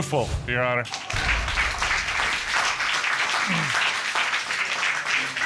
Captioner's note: applause